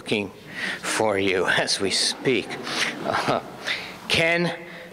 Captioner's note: audience laughs